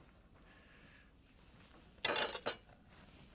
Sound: clattering

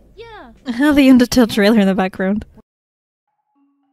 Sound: laughs

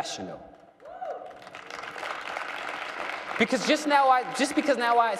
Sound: cheering and applause

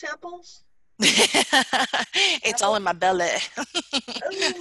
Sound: laughs

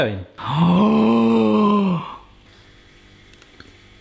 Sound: gasping

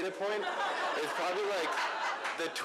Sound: laughter

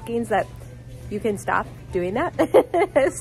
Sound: laughs

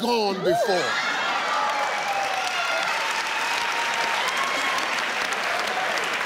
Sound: audience laughing and cheering

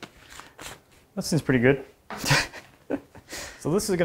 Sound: laughs

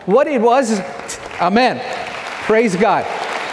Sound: audience clapping

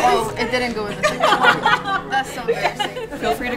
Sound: laugh

